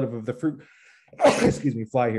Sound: sneezes

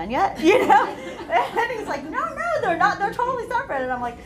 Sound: laughter

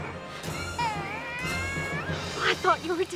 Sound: baby crying

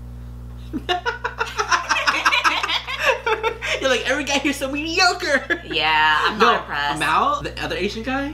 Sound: laughing

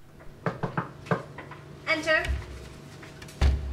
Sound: knocking

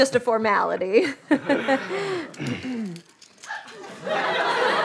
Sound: laughs; audience laughter

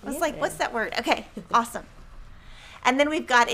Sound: laughing

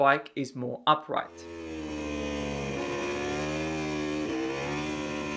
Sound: bike engine roaring

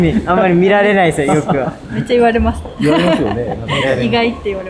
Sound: laughs

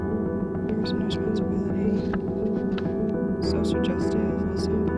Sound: anxious music; whispering

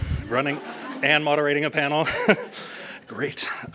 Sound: laughing; laughs

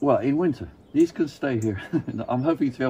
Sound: chuckles

